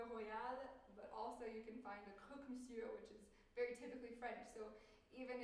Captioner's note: french